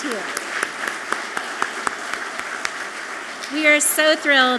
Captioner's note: audience clapping loudly